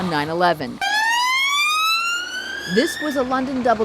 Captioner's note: ambulance wailing